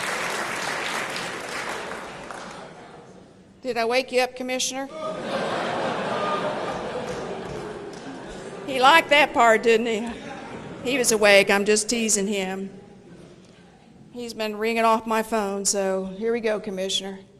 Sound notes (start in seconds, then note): 0.0 applause; 4.9 laughter; 5.2 applause; 10.1 laughter